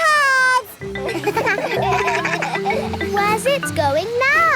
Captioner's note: kids laugh